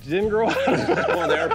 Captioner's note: laughs